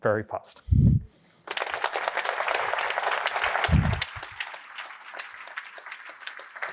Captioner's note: applause